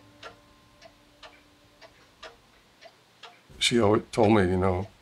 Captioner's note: clock ticking